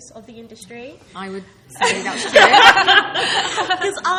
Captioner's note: laughing